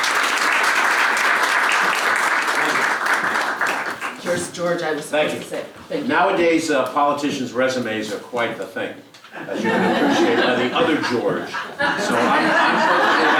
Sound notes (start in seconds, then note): 2.8 applause; 9.4 laugh